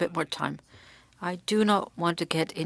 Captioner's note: speaking french